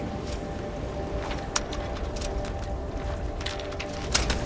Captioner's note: rope knocking